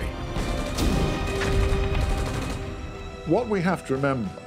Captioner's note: gunfire